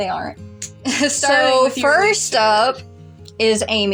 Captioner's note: chuckle